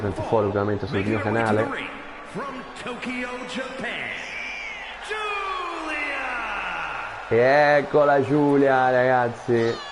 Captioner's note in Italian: Applauso